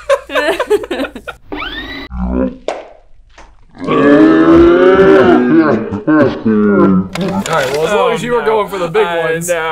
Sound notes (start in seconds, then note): 1.5 tape rewinding; 4.1 voices in slow-mo